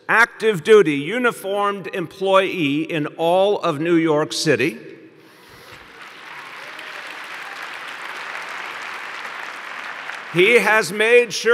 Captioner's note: applause